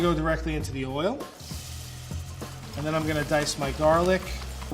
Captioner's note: onions sizzling